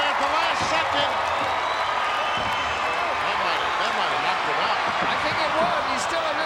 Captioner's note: applause